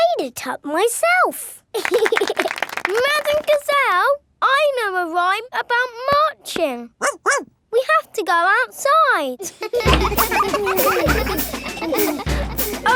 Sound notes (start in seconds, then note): 1.7 laughing and clapping; 7.0 barks; 9.4 children laughing